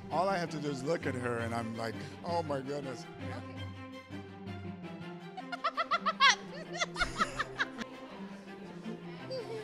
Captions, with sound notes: All I have to do is look at her and I'm like, "Oh my goodness." (gentle music) (both laugh)